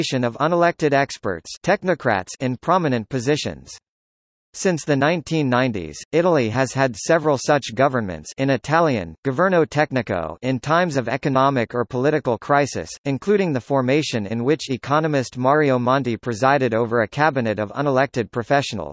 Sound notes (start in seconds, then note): 8.5 in Italian, governo tecnico